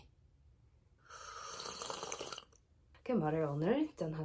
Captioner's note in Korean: 커피 마시는 소리